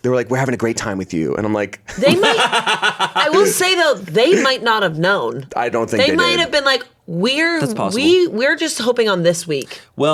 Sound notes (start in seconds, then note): 1.9 laughs